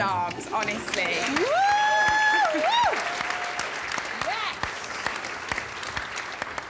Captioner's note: cheering & applause